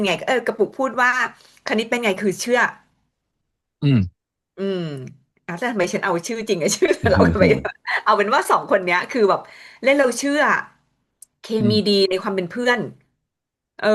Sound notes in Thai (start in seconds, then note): 6.9 เสียงหัวเราะ